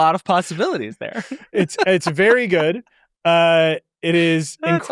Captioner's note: laughs